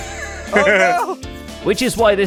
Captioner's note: both laughing